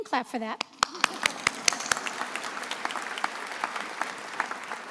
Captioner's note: attendees applauding